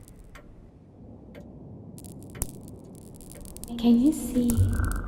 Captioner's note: whispering; clock ticking